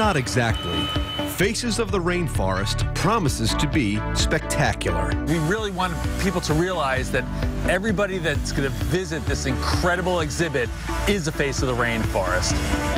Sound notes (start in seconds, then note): 2.0 beeping; 3.2 construction noises